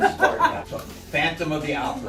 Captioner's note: laughs